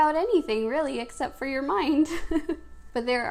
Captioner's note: laughs